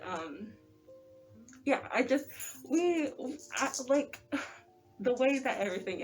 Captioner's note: ugh